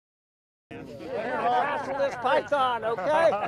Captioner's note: indistinct conversation and laughter